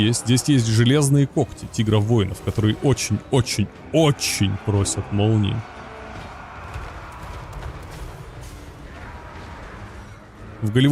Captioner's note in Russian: крик